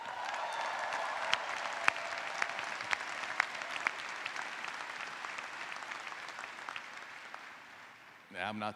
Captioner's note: applause